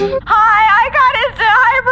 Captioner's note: voicemail plays